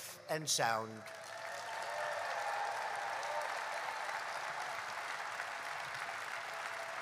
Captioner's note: applause